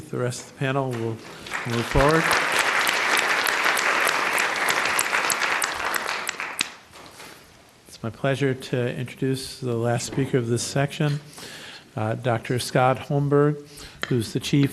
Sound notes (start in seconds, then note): 2.5 applause